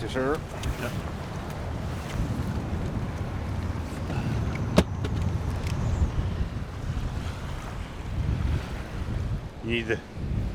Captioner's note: water lapping